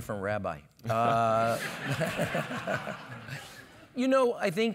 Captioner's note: laugh